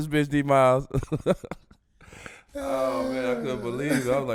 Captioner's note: laughing